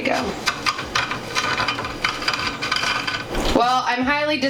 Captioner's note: sprinkles crunching